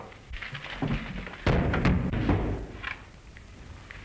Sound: crash

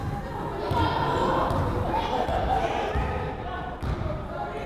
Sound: crowd chattering

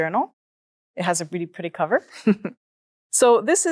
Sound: laughs

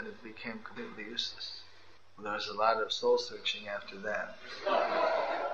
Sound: laughter

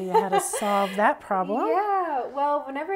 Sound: laugh

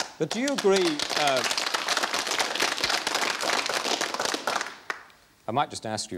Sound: applause

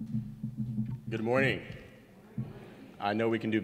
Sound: audience responds

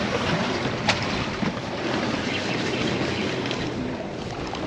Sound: water lapping; reel cranking

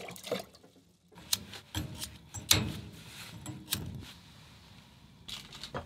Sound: lighter flickering

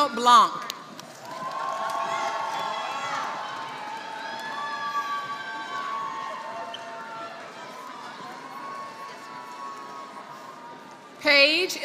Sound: applause

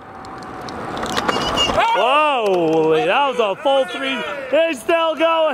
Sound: squeaker horn honking

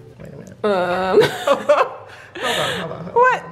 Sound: laughing

